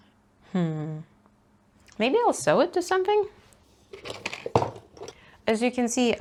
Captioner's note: rummaging noises